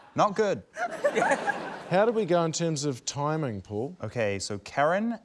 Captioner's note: laughter